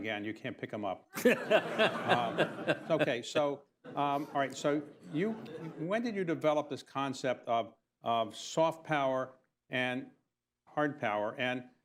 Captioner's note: laughter